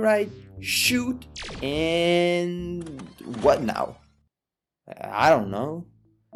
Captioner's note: vhs rewind